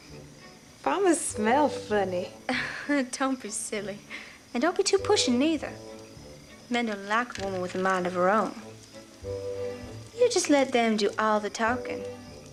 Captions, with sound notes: Farmers smell funny. - (laughs) Don't be silly, and don't be too pushy neither. Men don't like a woman with a mind of her own. You just let them do all the talking,